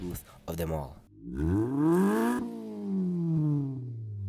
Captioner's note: engine revs